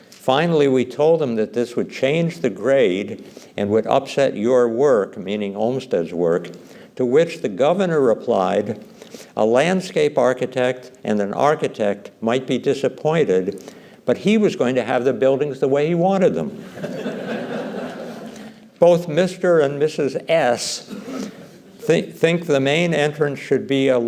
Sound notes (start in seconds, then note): 16.6 laughter